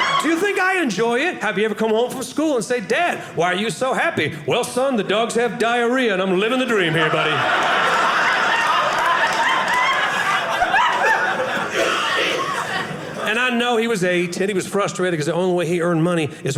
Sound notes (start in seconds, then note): 6.6 audience laughing